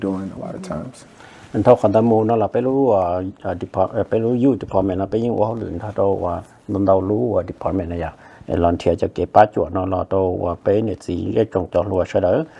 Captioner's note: Speaking in Hmong